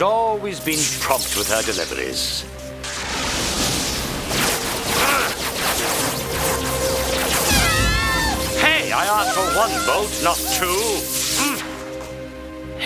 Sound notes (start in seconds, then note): 2.9 lightning crashing